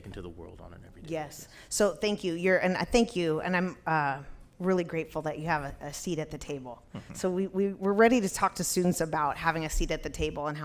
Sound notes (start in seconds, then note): 6.9 chuckles